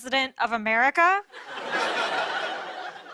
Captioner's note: laughter